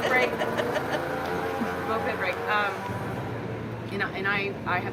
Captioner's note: motorbike noise fades